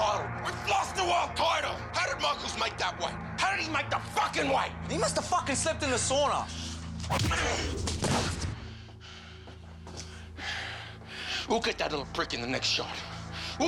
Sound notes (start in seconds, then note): 7.1 body thuds; 7.1 punch lands